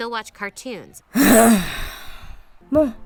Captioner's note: grumble